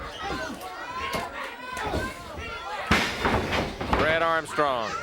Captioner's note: body thudding; blows thudding